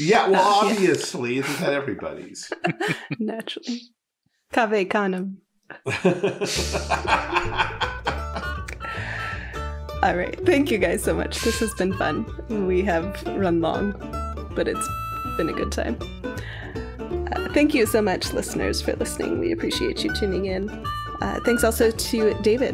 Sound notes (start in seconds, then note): 9.8 laughing